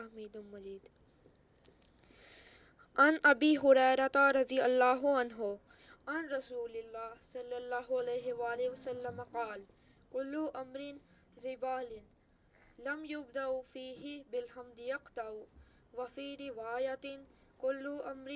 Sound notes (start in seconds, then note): 3.2 Arabic